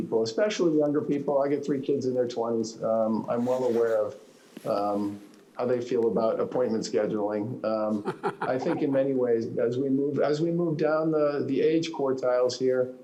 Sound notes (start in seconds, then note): 7.9 laughter